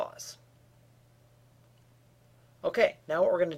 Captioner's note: no sound